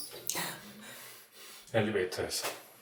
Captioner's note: sniff sniff